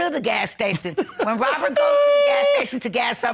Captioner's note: laughs